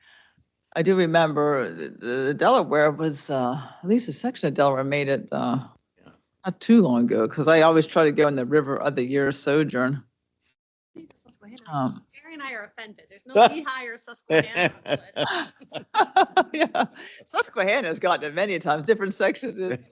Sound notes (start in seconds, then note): 14.2 laugh